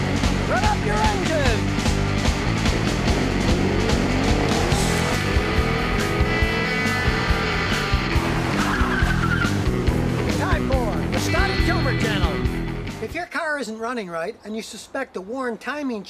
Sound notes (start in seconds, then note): 4.7 revving engine; 8.7 screeching tires